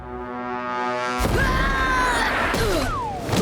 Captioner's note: grunting